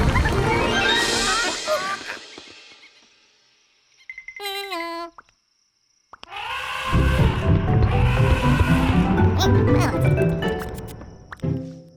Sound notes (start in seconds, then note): 0.0 large boom; 0.5 various animal noises; 6.3 elephant trumpet